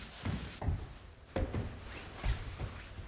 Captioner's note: footsteps on the stairs